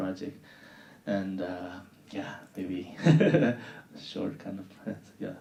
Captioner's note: laughing